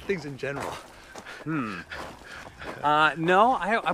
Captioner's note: laughs